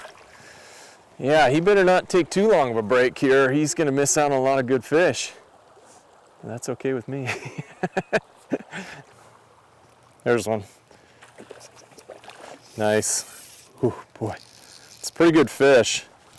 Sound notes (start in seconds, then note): 7.4 laughing